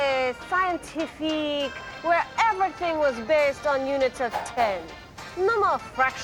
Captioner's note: in French accent